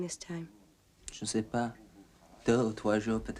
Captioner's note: speaking french